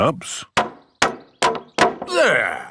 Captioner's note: hammering